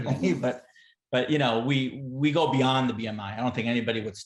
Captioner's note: laughter